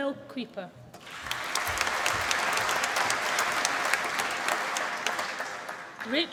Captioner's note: applause